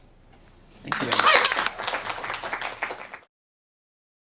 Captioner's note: applause